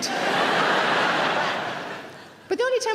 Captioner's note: audience laughing